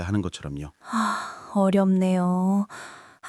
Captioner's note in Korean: 한숨